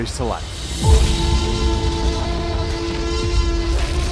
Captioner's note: T-Rex roaring